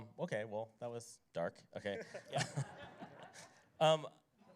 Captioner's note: laughter